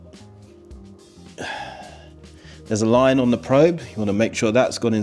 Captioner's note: sighs